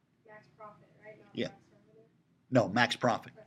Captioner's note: student speaking quietly